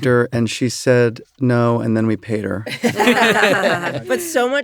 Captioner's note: laughter